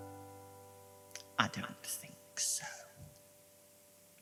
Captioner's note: whispering